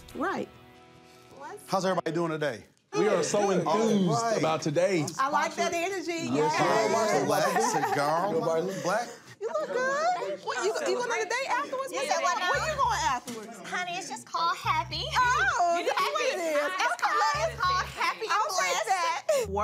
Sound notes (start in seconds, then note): 6.7 chatter